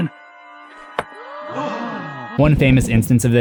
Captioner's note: gasps